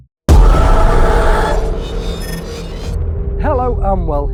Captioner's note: screaming